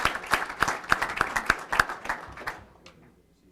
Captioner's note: applause